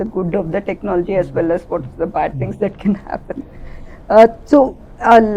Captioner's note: laughs